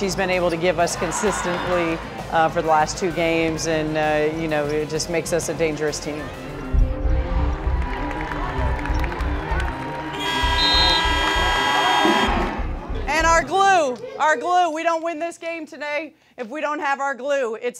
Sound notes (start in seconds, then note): 10.2 buzzer